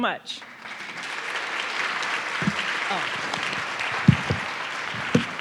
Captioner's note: audience clapping